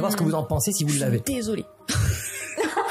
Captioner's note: laugh